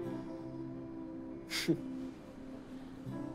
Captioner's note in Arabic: ضحكات خافتة